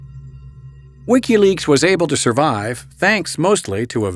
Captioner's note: voiceover